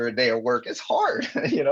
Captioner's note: chuckling